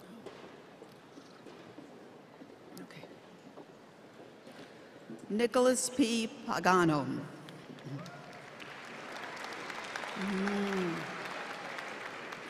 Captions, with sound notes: OK. Nicholas P. Pagano. [APPLAUSE]